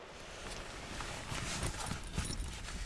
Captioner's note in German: Rascheln